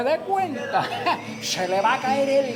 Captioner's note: laughs